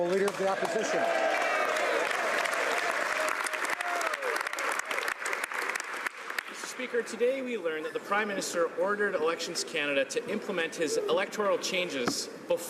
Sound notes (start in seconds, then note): 1.6 speaking French; 4.8 some Applause